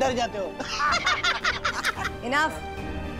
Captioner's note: laughing